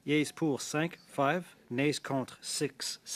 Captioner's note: speaking French